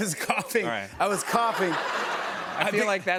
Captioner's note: laughter